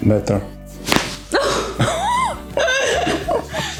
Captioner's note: crunches of bones; laugh